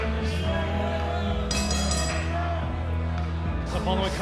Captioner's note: bell ringing